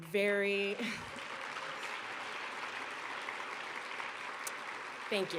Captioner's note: applause